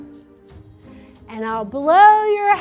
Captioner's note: mouth exhales